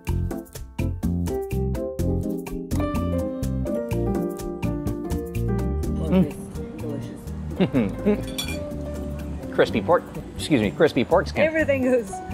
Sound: laughing

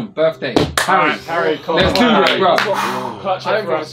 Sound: all chattering

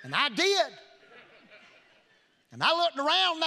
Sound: congregation laughing

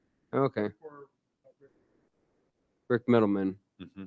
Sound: board member speaking faintly

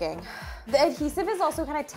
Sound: exhaling

